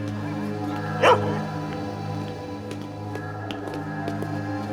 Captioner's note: dog barking